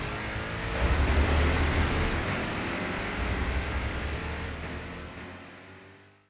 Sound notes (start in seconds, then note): 0.0 muscle car noises